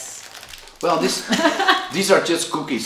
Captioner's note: laughing